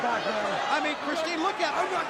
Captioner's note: crowd chatter